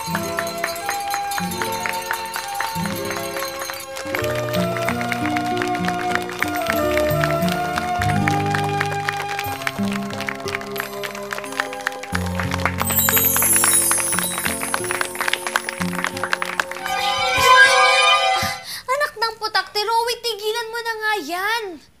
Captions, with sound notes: [applause] [bell ringing] Ah... son of a gun! Rowie, stop that already!